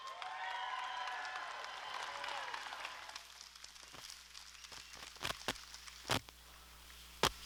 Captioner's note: applause